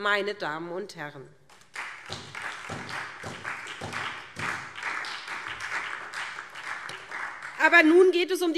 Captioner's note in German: Beifall SPD